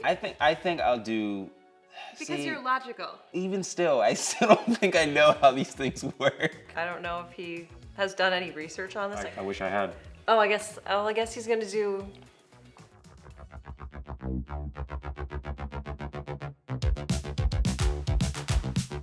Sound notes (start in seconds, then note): 4.2 laughs; 13.2 upbeat music